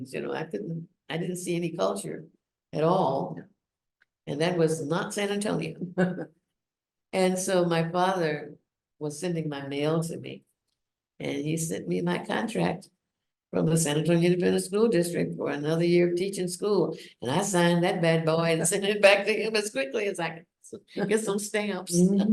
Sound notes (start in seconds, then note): 6.0 laughs